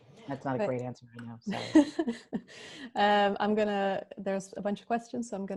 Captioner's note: laughs